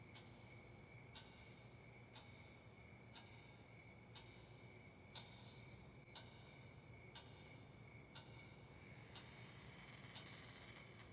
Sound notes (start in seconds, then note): 7.9 creaking